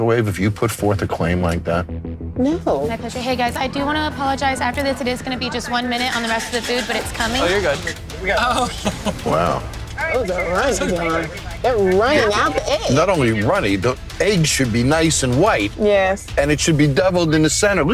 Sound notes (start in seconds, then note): 10.2 chatter